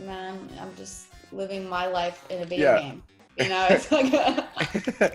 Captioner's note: laugh